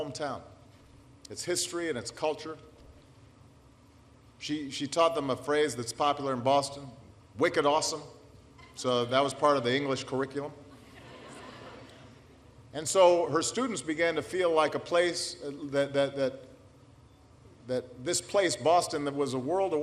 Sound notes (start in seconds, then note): 10.7 laughter